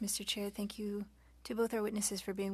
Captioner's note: speaking French